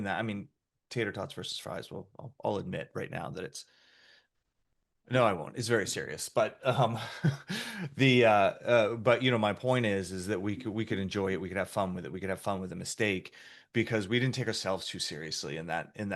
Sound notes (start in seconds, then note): 6.8 chuckles